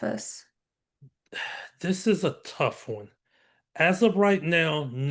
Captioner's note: sighs